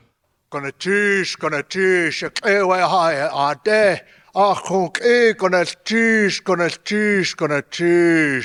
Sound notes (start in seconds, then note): 1.0 speaking in a foreign language